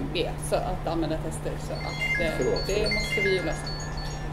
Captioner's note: phone rings